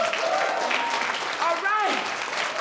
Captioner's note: attendees cheering and applauding